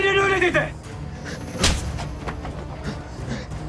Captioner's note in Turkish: Tokat sesi